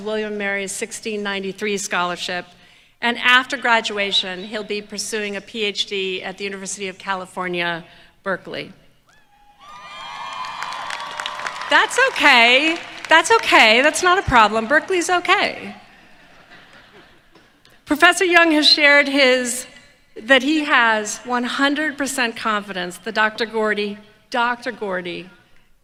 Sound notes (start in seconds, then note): 9.7 applause